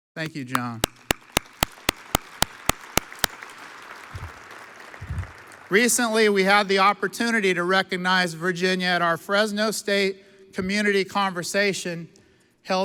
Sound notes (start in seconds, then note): 0.3 audience applauds